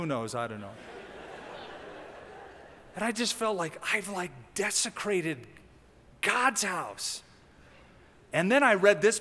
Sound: laughter

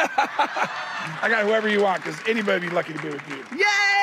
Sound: laughter

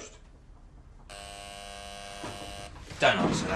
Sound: door buzzer

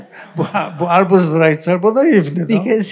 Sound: laughter; foreign language

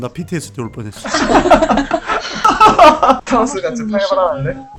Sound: laughter

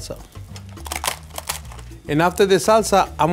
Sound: tortilla crunching

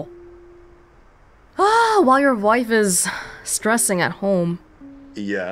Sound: sighs

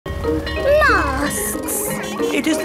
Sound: bell ringing

